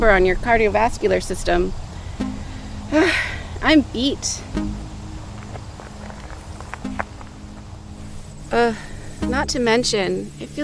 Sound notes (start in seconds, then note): 2.8 sighs